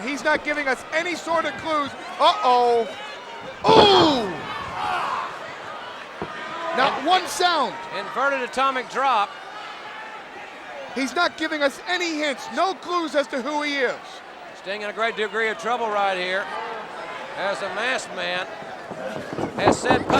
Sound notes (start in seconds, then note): 3.4 Sting thudding on ring; 3.7 Sting exclaiming